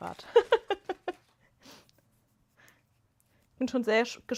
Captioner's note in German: gelächter